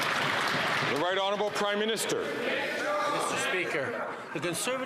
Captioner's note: some Applause